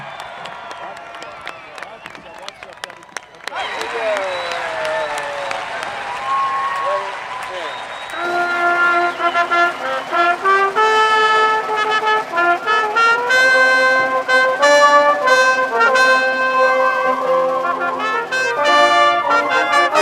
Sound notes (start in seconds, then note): 7.8 applause; 8.8 cheering